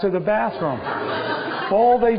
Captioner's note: laughter